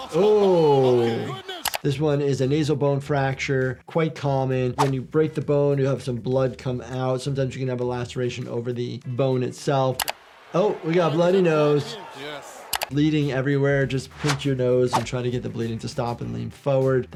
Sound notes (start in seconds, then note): 1.6 video clicks; 4.8 audio whooshes; 10.0 video clicks; 14.2 audio whooshes